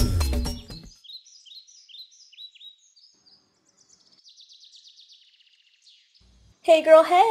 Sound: birds

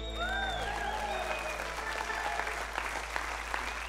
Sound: crowd cheers

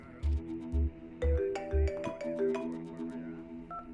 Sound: phone rings

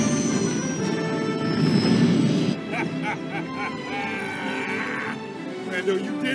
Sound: crane laugh

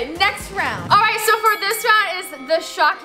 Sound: fight bell

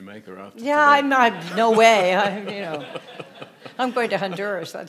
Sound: audience laughing

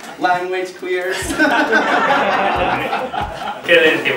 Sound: laughs

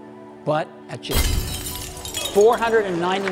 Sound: glass smashing

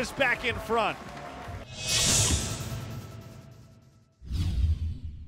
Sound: sound effects

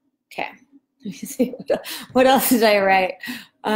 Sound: laughs

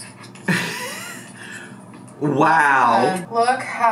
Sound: chortles

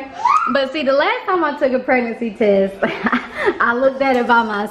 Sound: laughs

